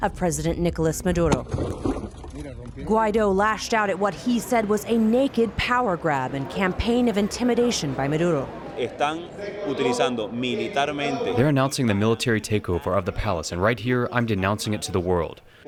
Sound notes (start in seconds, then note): 10.5 through translator